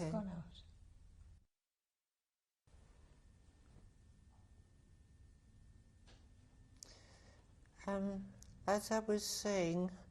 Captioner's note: pauses for 3 seconds